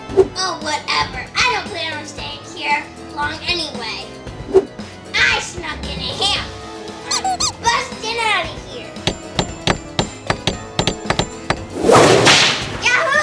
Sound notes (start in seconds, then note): 7.1 hammer squeaks; 9.0 hammer bangs; 11.8 whip cracks